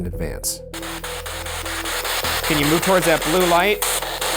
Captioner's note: spirit box crackling